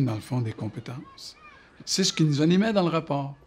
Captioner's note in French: rires et cris joyeux